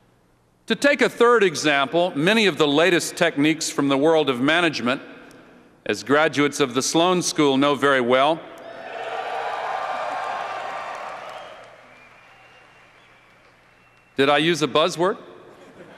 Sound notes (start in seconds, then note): 8.6 cheers